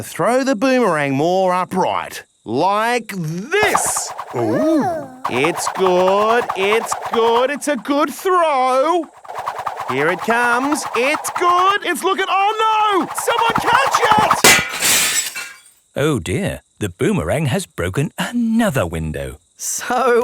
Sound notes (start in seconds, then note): 14.4 shatters